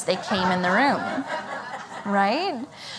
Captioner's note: laughter